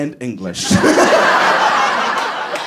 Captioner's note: laughs